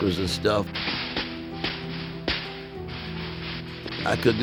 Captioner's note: guns firing